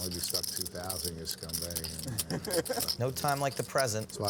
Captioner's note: laughter